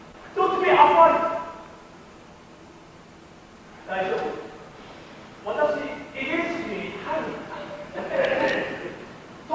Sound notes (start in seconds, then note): 6.7 in broken Japanese; 7.4 the other sailors laugh at him